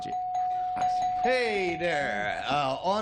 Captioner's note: bell dinging